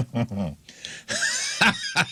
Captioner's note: laughing